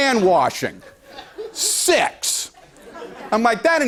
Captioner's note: laughter